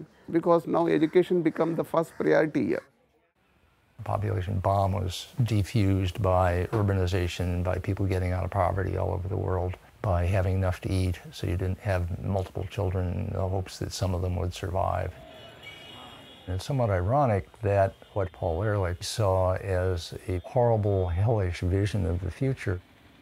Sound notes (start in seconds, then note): 14.6 horns blaring